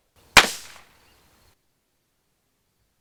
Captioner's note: gun fires